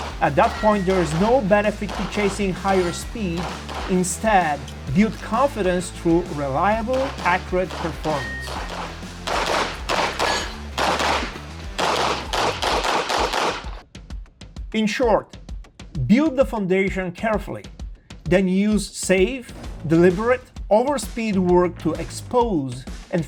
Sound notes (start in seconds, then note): 9.1 gun booming; 9.3 upbeat music